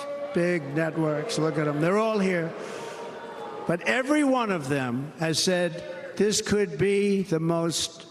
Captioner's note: cheers and applause